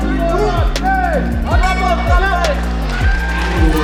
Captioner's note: bell